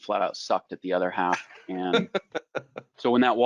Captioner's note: laughing